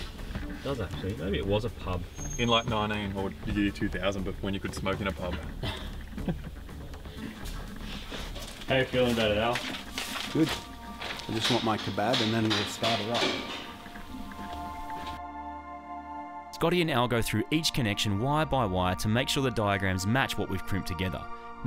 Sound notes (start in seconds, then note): 5.3 coughs, laughs